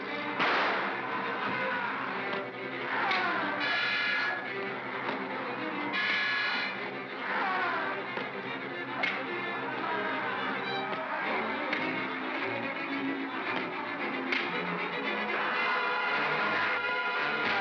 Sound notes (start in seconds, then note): 0.0 propeller whirrs; 0.0 suspenseful music; 0.4 loud pop; 3.0 crack; 4.8 thump & crack; 7.2 Bogeyman cries out; 10.9 thump & crack; 14.3 thump & crack; 15.4 suspenseful music